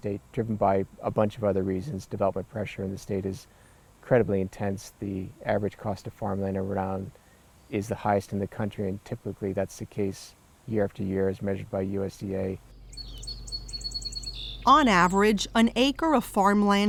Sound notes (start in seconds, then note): 12.9 birds chirping